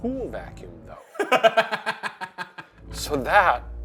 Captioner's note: laughs